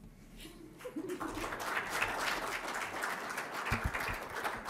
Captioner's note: audience applauding